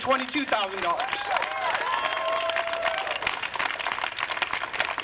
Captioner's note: applause